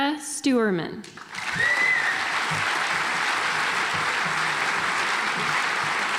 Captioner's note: audience applauds